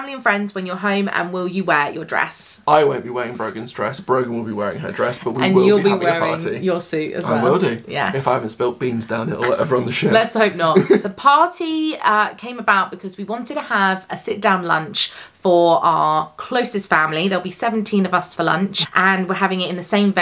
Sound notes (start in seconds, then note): 10.5 laughs